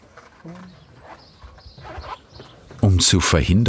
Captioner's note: birds chirping